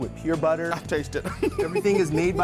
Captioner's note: laughing